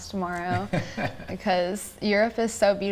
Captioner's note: laughing